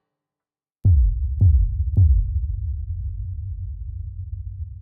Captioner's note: text thumping